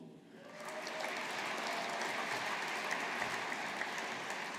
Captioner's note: audience applauding